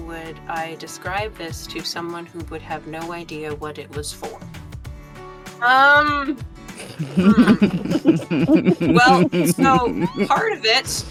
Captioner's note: EVERYONE giggles